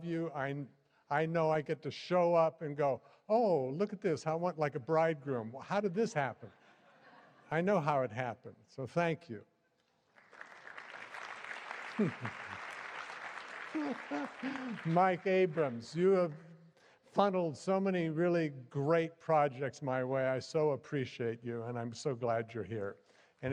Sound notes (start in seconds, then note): 10.0 applause